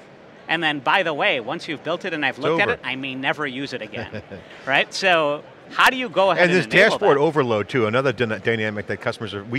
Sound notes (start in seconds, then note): 3.8 chuckles